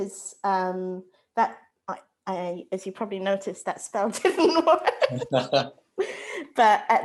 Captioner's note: laughs